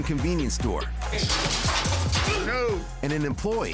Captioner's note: display shakes